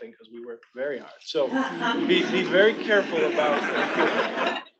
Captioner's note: attendees laughing